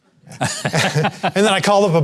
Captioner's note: both laughing